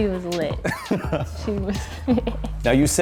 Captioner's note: laughs